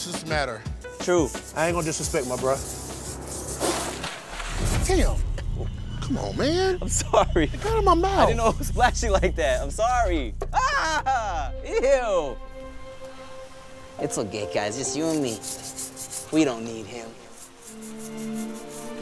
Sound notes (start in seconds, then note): 3.4 splashing; 8.9 screaming; 16.5 soft music